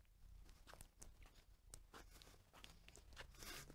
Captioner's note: shuffling